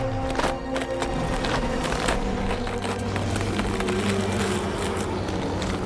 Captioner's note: flesh crunching and ripping